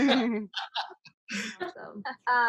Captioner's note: laughing